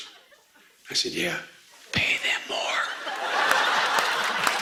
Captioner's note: normal voice; whispering; laughter